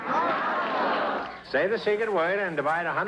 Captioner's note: radio Announcer; radio Announcer